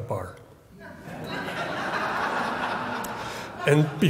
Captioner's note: audience chuckles